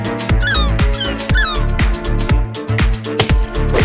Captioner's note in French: son d'oiseau